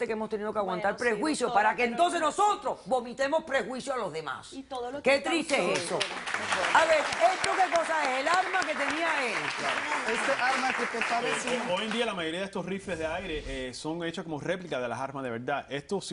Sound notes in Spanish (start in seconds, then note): 5.6 Aplausos